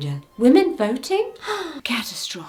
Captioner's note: gasps